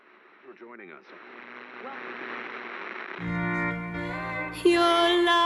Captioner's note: radio spitting static